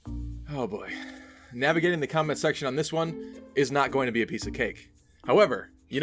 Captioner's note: sigh